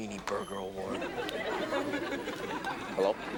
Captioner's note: audience laughs